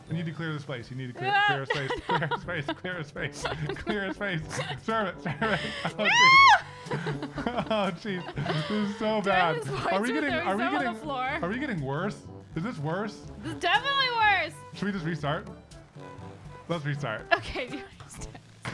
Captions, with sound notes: I need to clear this place you need to clear a space Clear a space, clear a space Serve it Noo! *laughing* This is so bad Do I lose points for throwing stuff on the floor? Are we getting worse? Is this worse? This is definitely worse! Should we just restart? Let's restart Okay, restart